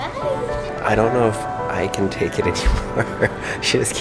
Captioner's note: laughs